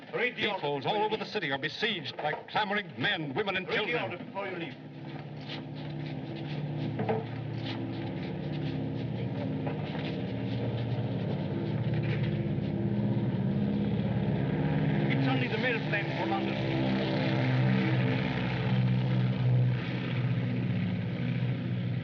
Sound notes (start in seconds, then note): 6.2 airplane Engines Droning